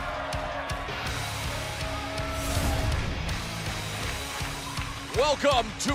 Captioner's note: cheers and applause